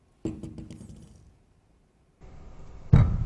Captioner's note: balls bouncing; balls slowly bouncing